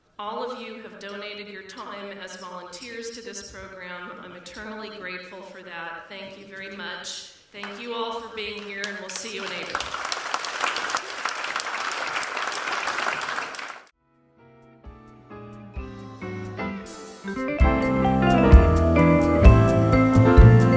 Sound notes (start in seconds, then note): 8.5 applause